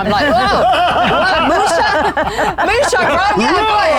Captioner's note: group laughs